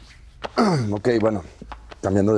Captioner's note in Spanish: aclara garganta